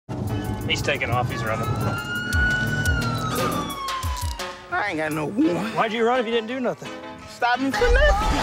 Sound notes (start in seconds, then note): 0.9 sirens